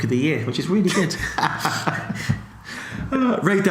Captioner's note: laughs